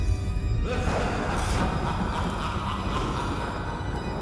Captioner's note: sinister laugh